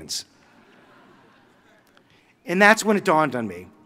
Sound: audience chuckling

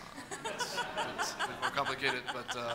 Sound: audience laughs

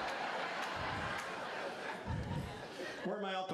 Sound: laughter

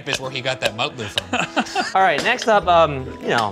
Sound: laughing

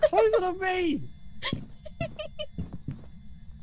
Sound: laughing

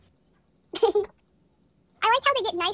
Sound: bar giggles

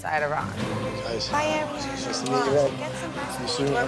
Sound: chatter

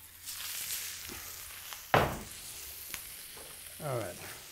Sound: sizzling

